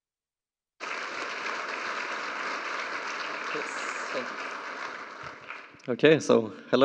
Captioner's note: applause